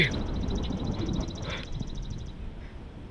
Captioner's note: gasps